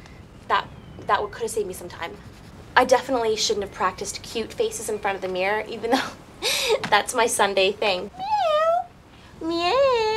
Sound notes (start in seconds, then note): 8.1 meows